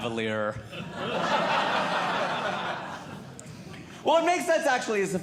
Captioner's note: audience Laughing